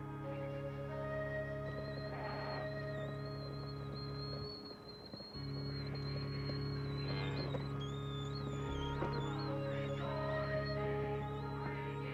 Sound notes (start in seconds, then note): 7.1 mooing